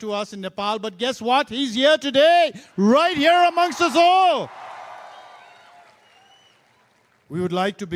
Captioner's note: cheering/Applause